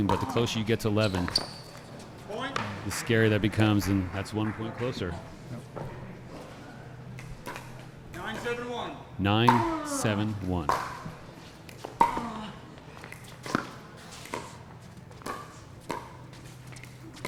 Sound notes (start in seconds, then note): 10.7 ball being hit; 11.0 shoes squeaking